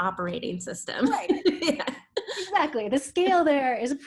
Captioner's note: laughs